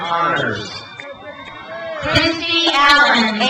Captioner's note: crowd cheers